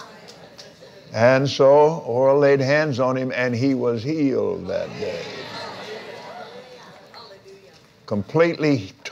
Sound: laughs

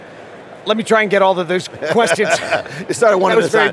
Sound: laughs

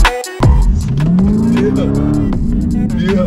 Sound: car engine revving

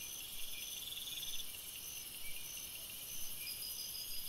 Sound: loud crickets chirping

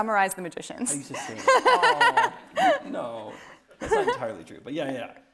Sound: laughing

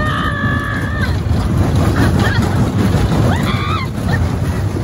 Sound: screaming

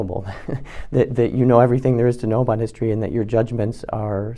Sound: laugh

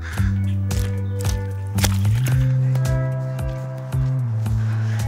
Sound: puddle splashes

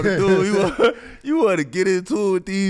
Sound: Metta laughs

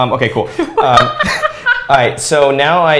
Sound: laughs

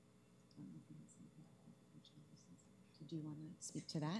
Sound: whispering

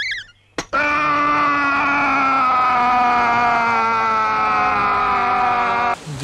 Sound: bear yelling

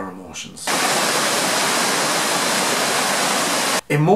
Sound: water rushing

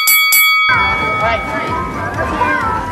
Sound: bell ringing

